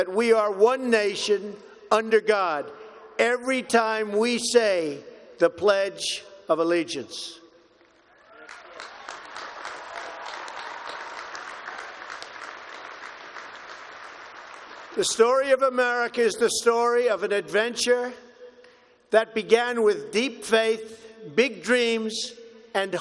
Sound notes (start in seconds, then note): 7.9 applause